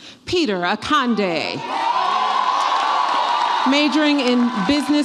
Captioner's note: audience applauds and cheers